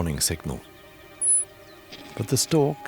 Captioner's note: souslik whistles